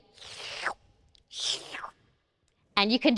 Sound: slurps

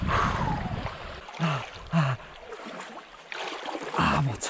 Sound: panting

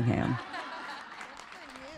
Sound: laughter

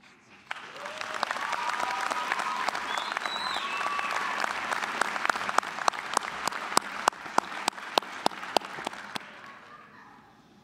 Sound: applause, cheering

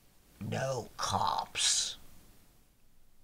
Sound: deadpan

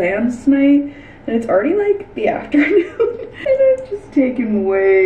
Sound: laughing

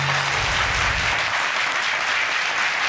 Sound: audience clapping

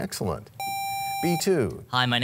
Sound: sound of a buzzer

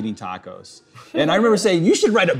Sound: laughing

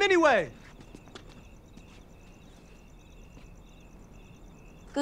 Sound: insects chirping

